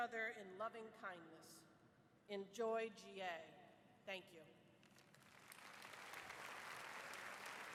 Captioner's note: applause